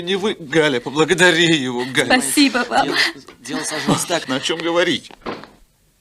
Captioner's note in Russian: смех